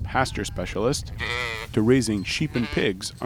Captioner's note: sheep bleating